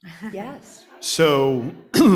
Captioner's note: audience laughs